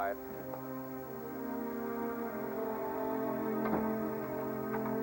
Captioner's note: turns radio off